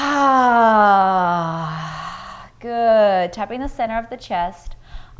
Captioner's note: loud sighing